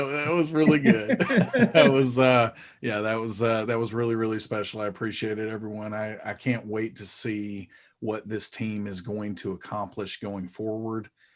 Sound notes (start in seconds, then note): 1.9 chuckling